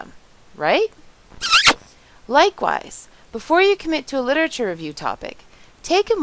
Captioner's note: kiss sound